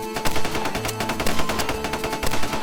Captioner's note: gunshots